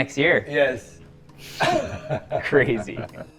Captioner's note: laughs